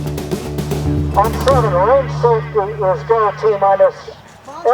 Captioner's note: soft music; loud speaker